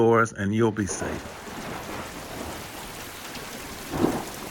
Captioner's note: rain pouring